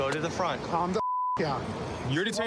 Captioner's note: beep